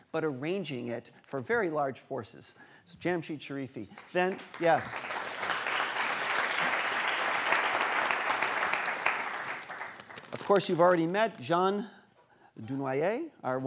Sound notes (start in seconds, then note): 3.9 applause